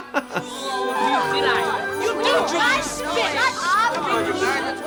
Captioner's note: McCallisters bickering loudly